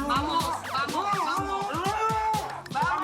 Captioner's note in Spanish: Gritos